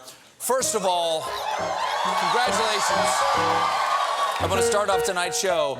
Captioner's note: applause